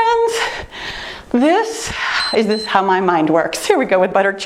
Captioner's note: timer beeps